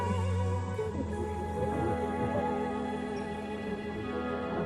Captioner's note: static